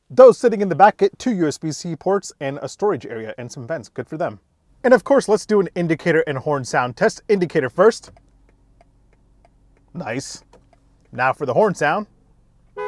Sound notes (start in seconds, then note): 8.0 indicator clicks